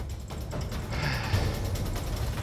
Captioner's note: sighs